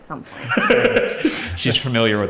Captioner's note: laughs